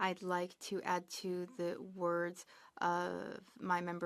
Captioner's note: speaking French